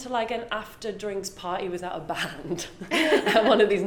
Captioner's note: both laugh